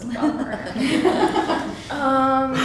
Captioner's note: laughter